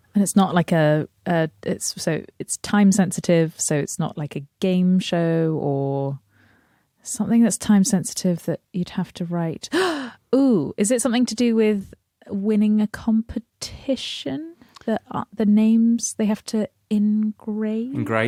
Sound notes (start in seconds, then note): 9.7 gasp